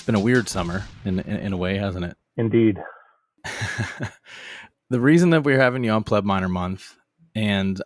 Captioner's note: laughs